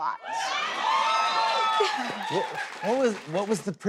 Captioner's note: cheers and applause